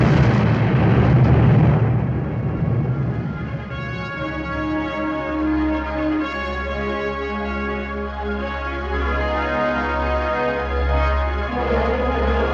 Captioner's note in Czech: ohlušující výbuchy přecházejí v orchestrální závěr